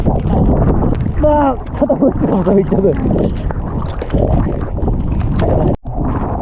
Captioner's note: raindrops hitting my face hard